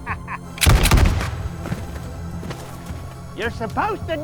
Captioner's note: laughs; gunfire echoing